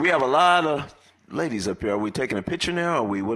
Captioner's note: applause